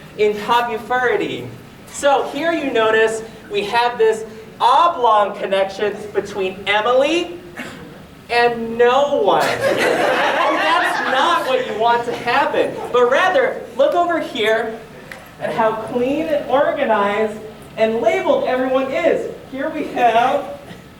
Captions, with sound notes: In "popufurity." So here you notice we have this oblong connection between Emily... and... no one. (audience laughter) and that's not what you want to happen. But rather, look over here. At how clean and organized and labelled everyone is. Here we have...